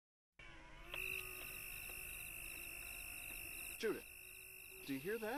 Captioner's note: machines buzzing